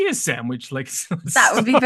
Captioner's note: laughter